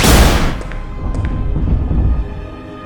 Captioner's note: loud rumble